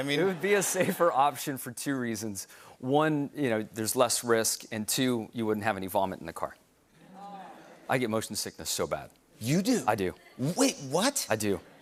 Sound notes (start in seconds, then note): 7.1 audience groans